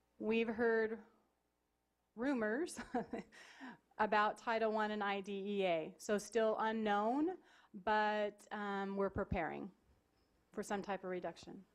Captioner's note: laughing